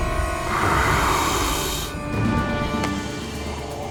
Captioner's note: deafening sinister music; officer growls